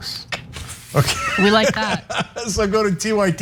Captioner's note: laugh